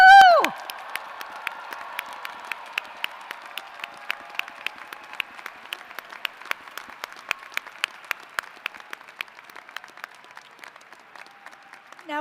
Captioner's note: applause